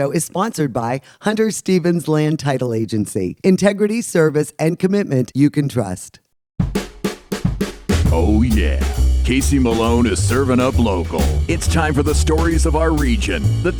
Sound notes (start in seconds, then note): 8.3 male Voice